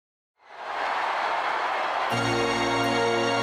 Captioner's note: applause